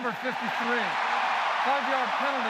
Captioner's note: cheering